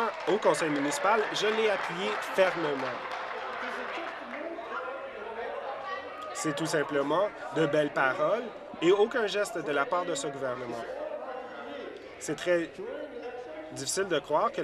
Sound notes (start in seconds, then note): 3.9 applause